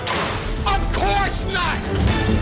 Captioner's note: pitcher crashes